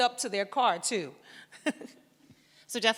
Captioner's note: laughs